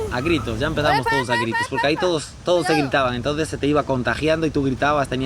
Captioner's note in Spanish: gritando